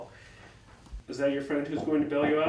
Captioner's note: light knocking